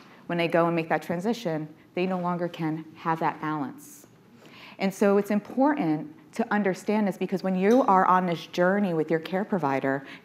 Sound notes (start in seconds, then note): none